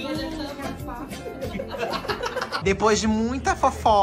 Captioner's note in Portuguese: risos